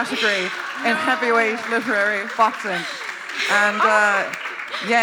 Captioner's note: applause